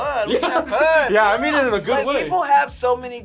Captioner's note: laughs